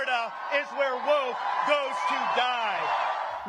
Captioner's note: cheering and applause